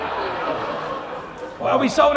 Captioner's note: laughter